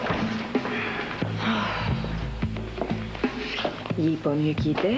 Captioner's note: soupire